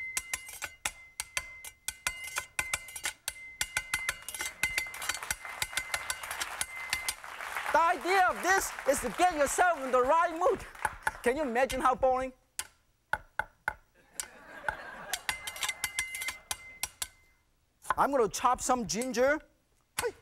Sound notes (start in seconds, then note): 4.9 clapping; 10.8 chopping; 14.0 laughter